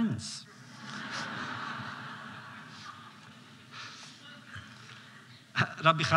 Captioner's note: laughter